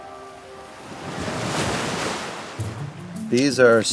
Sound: waves swooshing

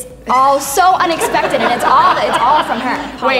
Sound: audience laughs

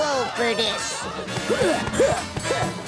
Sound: grunting

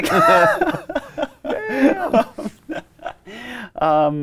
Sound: both laughing

